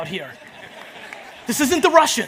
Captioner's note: audience laughs